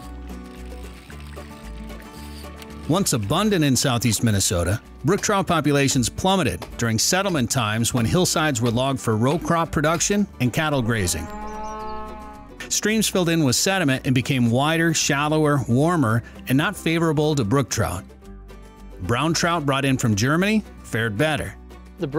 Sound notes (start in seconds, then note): 0.1 fishing reel creaking; 10.7 animal moos